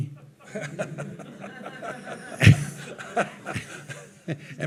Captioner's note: audience laughing